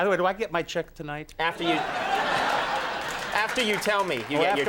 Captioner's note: audience laughs